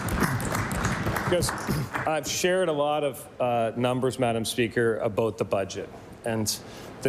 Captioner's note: applause